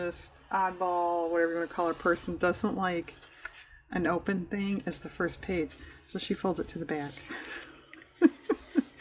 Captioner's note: laughs